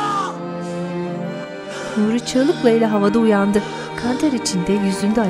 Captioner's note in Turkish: Nefes sesleri; Müzik - Keman